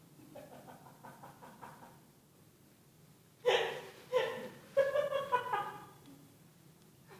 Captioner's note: laughter